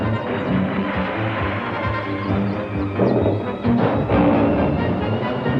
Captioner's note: boards splashing